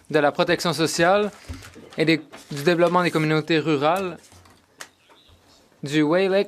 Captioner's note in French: voix de l'interprète